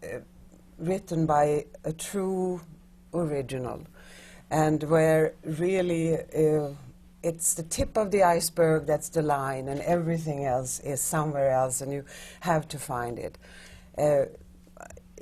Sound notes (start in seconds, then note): none